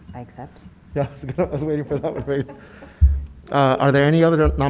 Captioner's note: laughs